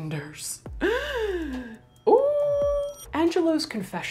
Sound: gasps

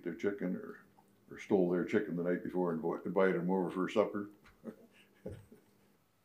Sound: chuckles

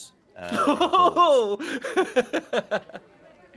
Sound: laughing

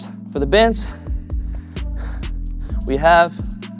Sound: breathes heavily

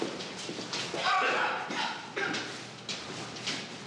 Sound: coughing

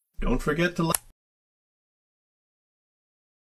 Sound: click

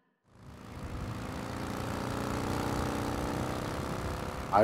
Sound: motorcycle hums

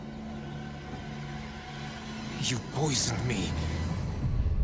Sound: none

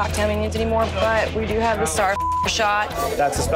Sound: beeping

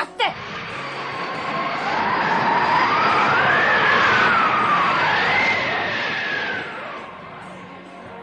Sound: SFX: tornado

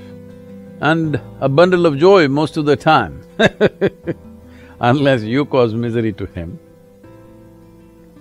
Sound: laughs

